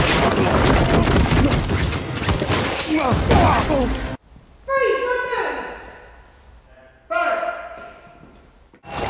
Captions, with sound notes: (grunting) - Freeze, don't move! - Fire!